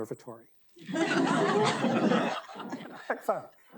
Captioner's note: audience laughing